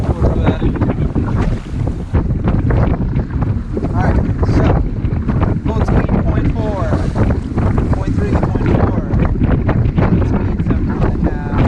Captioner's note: wind whoosing over voice